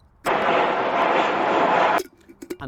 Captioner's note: jet engine